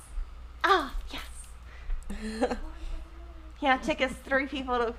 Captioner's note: laughing